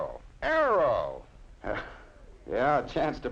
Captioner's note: nervous chuckle